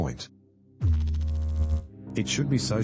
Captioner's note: electrical noise